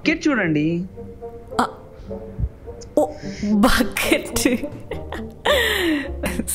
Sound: chuckles

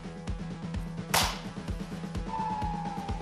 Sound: claps!

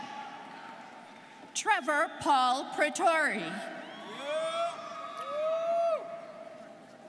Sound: students cheering

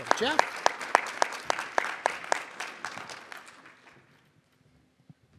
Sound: audience applauds

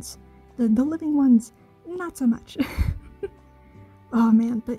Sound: chuckle

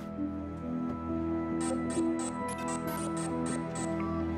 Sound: Dane's phone rings

